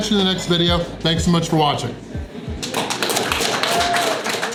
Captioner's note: crowd clapping and cheering